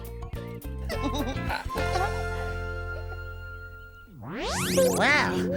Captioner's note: upbeat music; giggling